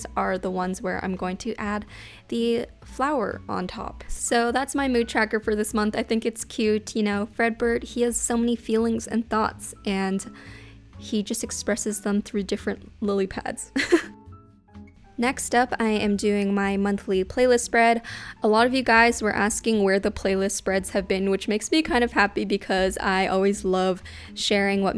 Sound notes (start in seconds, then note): 13.6 laughs